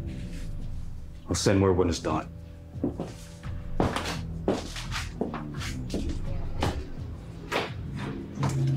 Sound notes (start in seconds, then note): 2.7 footsteps thudding; 3.2 suspenseful music